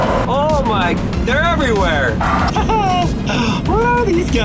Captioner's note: laughs